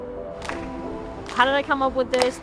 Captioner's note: jazzy music; hands clapping